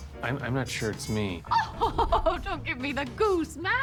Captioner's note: laughs